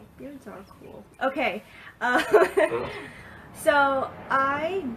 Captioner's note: laughs